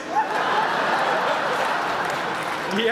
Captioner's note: laughter